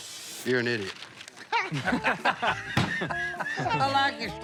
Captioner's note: laughter